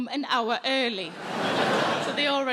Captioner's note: audience laughing